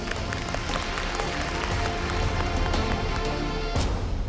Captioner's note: applause